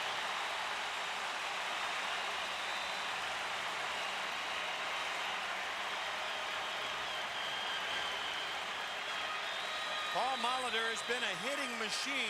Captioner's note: applause; cheering and Applause